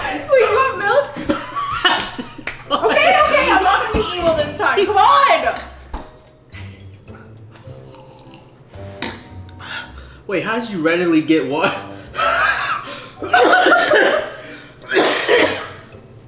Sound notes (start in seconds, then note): 1.3 wheezing; 6.7 slurping water; 11.7 coughing